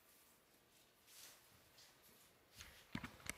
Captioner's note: quiet rustling